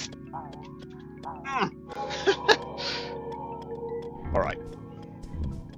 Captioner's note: chuckles